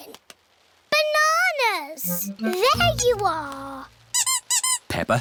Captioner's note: squeaking